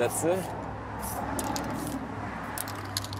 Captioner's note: traffic noise